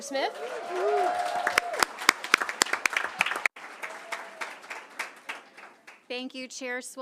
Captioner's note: applause and cheering